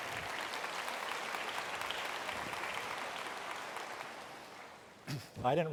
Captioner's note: applause